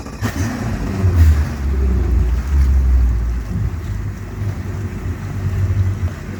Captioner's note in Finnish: Moottorit käynnistetään